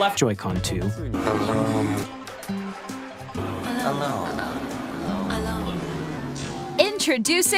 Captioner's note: ominous voices saying "alone"